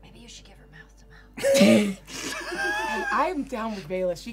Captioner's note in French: rires